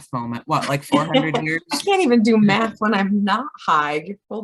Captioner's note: laughs